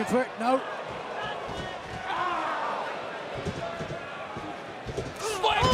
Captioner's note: crowd cheering